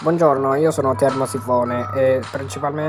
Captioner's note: laughs